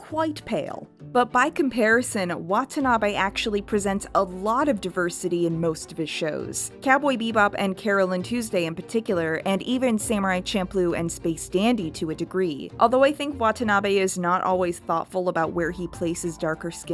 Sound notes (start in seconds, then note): none